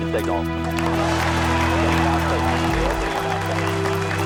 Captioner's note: crowd cheering